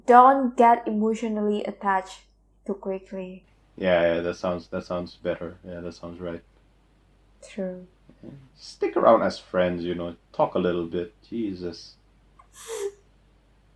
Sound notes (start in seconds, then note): 12.4 wheeze